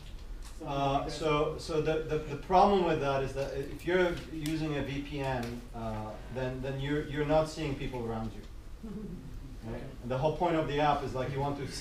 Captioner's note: giggles